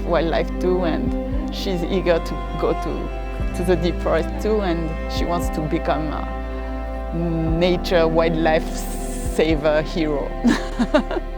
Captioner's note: laughs